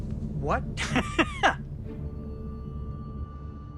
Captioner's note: laughs